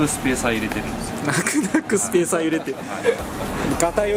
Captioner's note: laughs